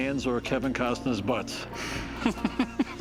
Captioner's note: laughs